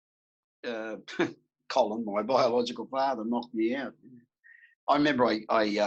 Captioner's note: laughs